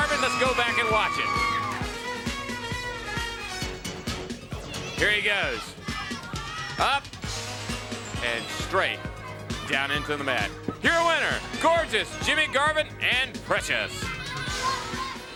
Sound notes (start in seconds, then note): 2.4 fun pop music; 8.3 crowd cheering